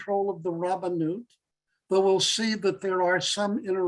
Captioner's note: Hebrew